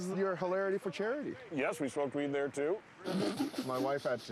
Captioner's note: laughing